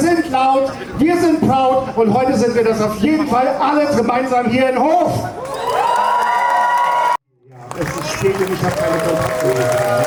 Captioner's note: cheers